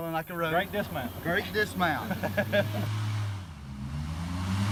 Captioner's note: laughter